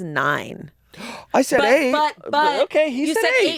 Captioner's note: gasps